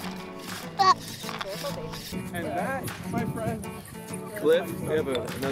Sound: speaks foreign language

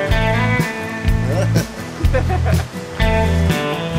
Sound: laughs

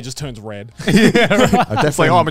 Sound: all laughing

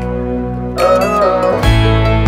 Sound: ohh

